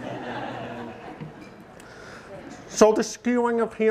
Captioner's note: audience laughing